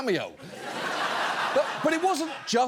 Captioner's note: audience laughs